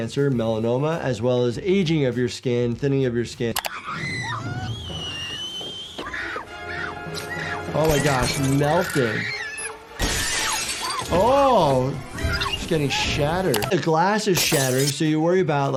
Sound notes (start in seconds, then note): 3.6 scream; 9.3 thermostat beeps; 10.0 glass crashes